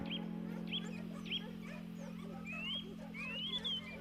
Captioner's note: dogs barking